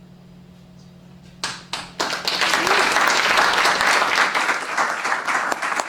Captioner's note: applause